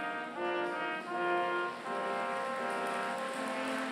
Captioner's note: applause